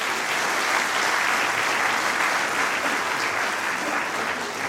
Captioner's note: applause